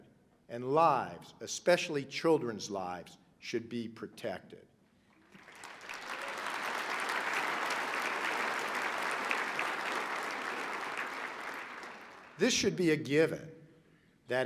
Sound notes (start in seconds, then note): 9.9 applause